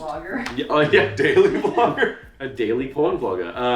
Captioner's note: laughs